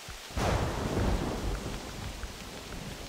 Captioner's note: buffalo's footsteps